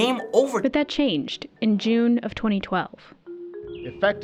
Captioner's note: voice-over